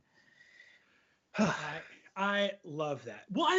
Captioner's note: sighs